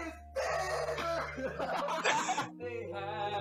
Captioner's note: laughter